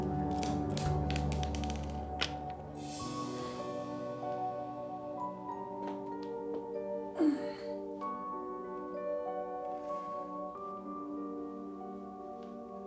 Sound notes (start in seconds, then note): 0.3 pills dropping; 4.7 sighs; 7.2 grunts